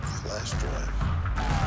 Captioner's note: sirens